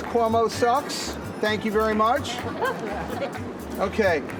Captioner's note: laughter